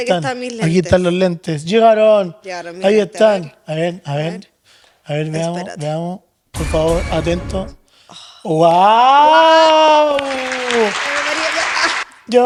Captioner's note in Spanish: ovación; aplausos